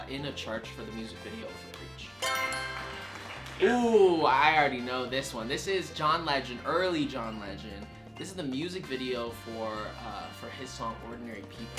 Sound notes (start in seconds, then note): 2.2 answer board chimes; 2.2 crowd claps